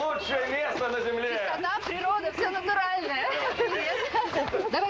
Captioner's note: laughter